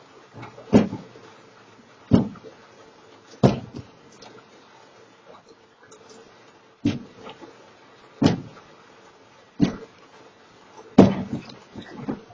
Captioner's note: loud noises of box hitting the ground repeatedly